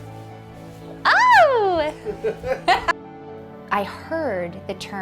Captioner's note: laughing